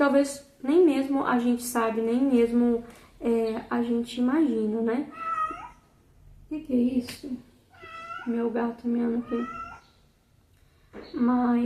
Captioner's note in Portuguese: meu gato miando aqui